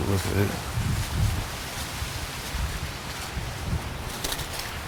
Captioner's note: leaves rustle